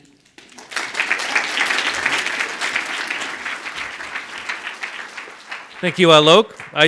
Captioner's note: audience applauds